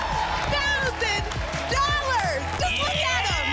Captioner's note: applause and cheering